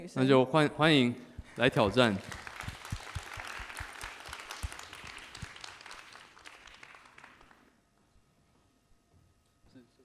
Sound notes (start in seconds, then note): 1.5 applause